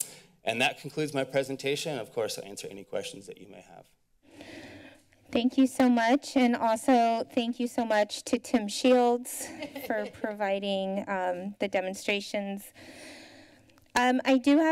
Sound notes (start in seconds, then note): 9.4 laughter